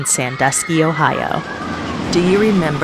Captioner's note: people screaming